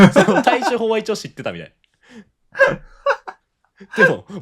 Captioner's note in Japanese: 笑い; 息をのむ音